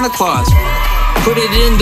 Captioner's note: children cheer